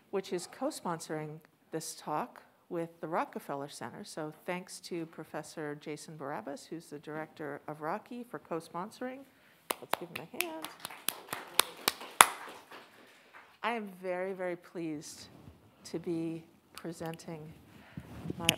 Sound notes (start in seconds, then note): 9.7 claps; 10.3 audience applauds